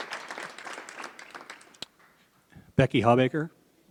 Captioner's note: applause